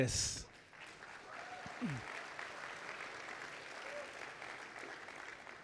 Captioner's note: audience applauding